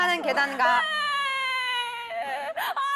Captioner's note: dramatic sobbing